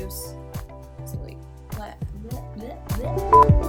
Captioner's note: beep